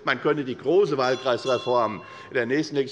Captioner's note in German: Unruhe - Glockenzeichen des Präsidenten